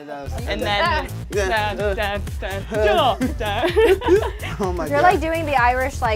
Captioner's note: overlapping chattering